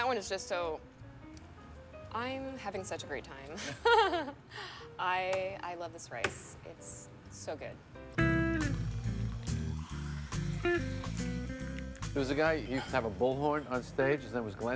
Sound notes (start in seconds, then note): 3.7 nasally laughs; 7.8 slow jazz music